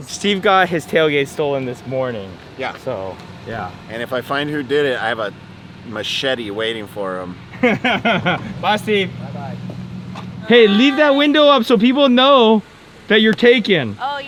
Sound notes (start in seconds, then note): 7.5 laughs